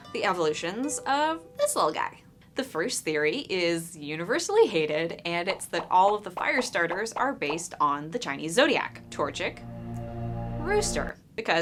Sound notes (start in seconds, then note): 5.4 Pokemon popping as they appear; 8.4 ominous music